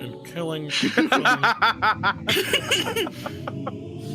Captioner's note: all laughing